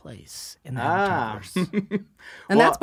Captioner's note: chuckles